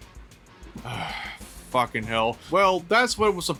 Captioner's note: sigh